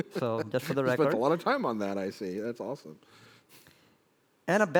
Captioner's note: laughs